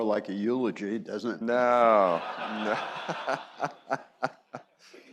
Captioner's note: chuckling